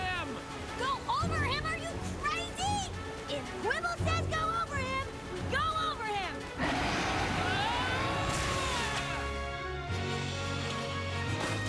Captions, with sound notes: GO OVER HIM? ARE YOU CRAZY? IF QUIBBLE SAYS GO OVER HIM, WE GO OVER HIM. [ ROAR! ] AAAH!